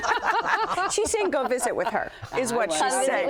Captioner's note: laughing